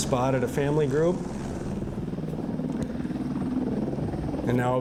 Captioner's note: helicopter sound